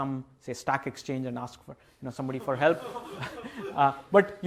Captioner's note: laughter